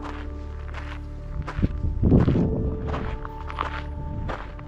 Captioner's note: wind